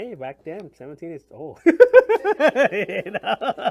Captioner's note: laughs